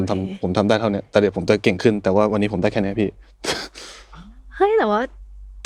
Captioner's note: laughs